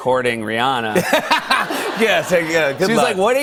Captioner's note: laughter